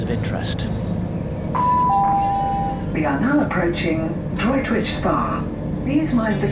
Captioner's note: train announcement